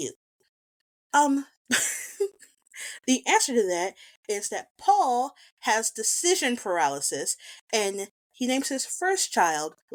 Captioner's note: laughs